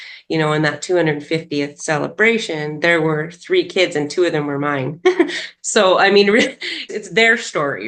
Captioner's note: laughs